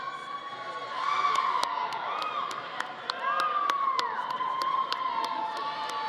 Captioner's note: audience continues cheering